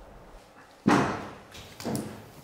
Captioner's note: rumble